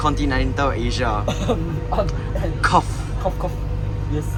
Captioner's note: coughs